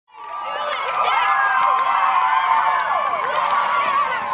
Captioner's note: children cheering